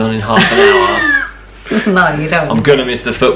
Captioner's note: laughing